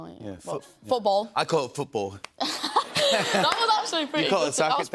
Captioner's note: British accent